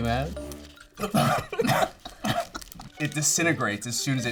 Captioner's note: coughing